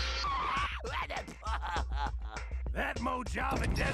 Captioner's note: laughing